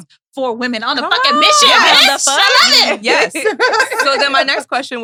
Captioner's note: laughs